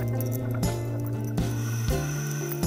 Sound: chain clanks; air hisses

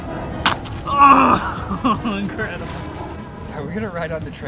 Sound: shirt ripping

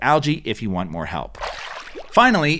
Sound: water splashes

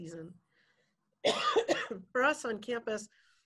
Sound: coughs

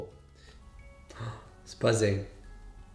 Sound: gasps

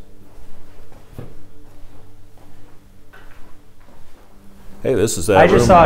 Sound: footsteps tapping

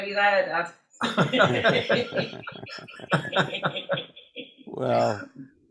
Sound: they all laugh

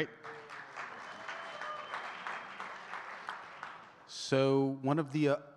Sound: audience cheering and clapping

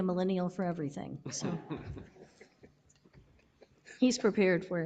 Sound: all laughing

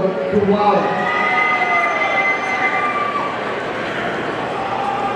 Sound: audience cheering

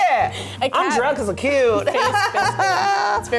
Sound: laughs

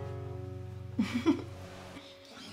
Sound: giggling

